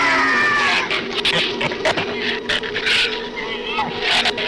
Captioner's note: shrews snarl